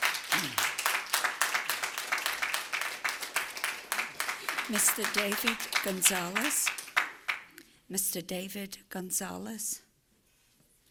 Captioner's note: applause